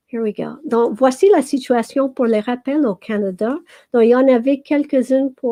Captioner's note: speaking French